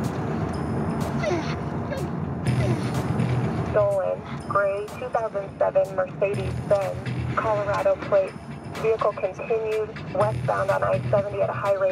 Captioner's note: whimpering